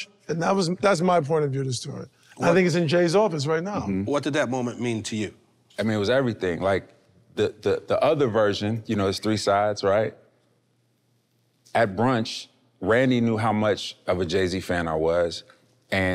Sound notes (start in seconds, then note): none